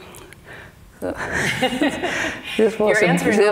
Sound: laughing

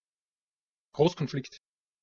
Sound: fast Pronunciation

